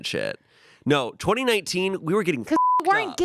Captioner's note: beep